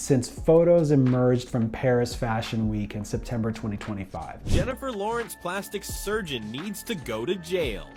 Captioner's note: voiceover